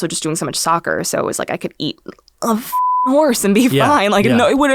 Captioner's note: beep